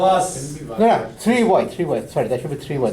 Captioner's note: voiceover